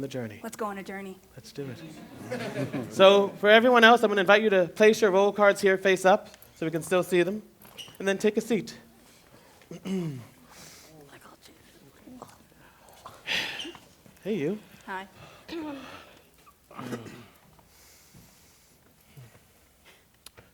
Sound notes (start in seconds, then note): 1.7 laughter; 9.4 clears throat, shuffling; 15.5 clearing throats, shuffling; 16.7 clears throat